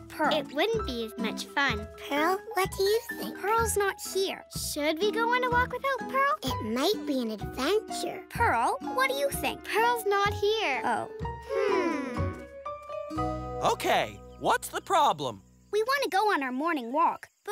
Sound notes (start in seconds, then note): 9.8 "hmm" as they think